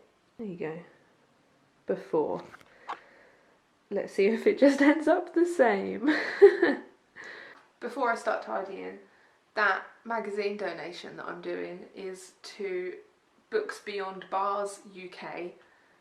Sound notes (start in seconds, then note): 6.1 laughs